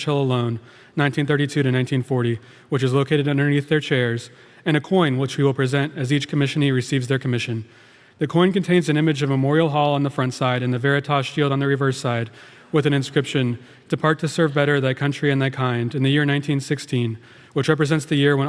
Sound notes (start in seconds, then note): none